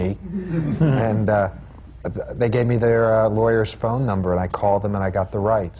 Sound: laughter

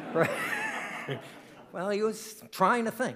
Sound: audience laughing

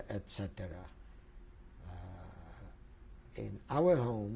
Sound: pauses for 3 seconds

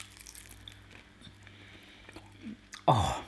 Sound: onion crunching

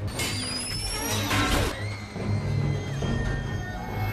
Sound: metal creaks

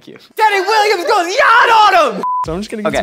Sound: beep

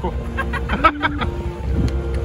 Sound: laughter

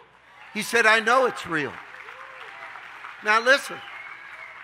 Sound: audience cheering

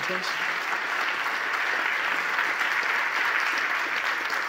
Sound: audience applauding

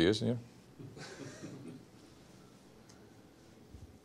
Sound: quiet chuckles from audience

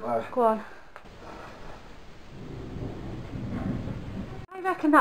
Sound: dragging sound

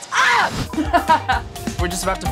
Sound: laughing

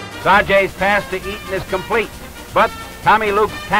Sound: voiceover

